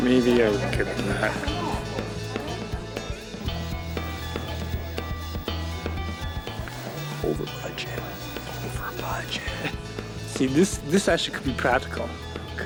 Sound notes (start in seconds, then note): 7.4 whispering